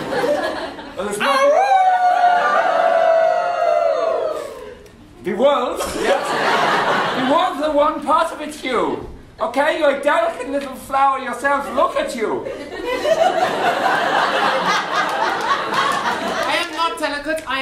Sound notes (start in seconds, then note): 1.5 audience & continue howling